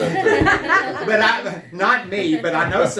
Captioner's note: laughter